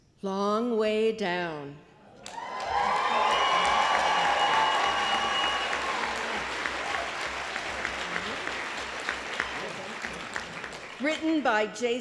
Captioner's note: applause